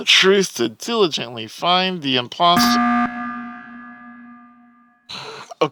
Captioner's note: beep